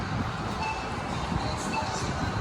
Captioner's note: beep